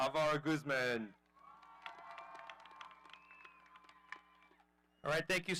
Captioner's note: audience cheering